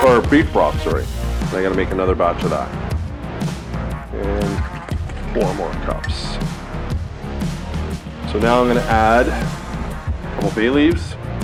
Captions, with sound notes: or beef broth, sorry. And I gotta make another batch of that. (broth splattering) And four more cups. So now I'm gonna add a couple bay leaves,